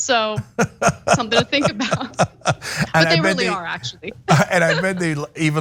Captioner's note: laugh